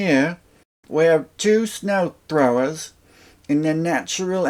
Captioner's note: outback guy voice